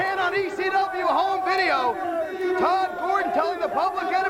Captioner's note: crowd chatter